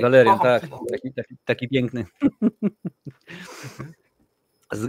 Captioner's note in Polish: śmiech